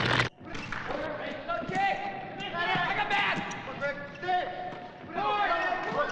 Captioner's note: basketball players yelling